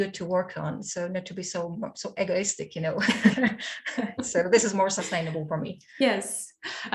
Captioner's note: laughs